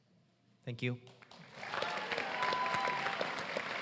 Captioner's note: applause